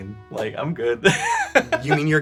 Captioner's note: laughs